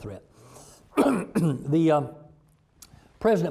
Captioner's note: clearing throat